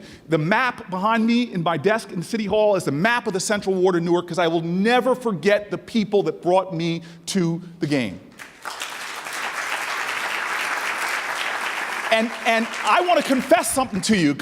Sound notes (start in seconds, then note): 8.4 audience applauding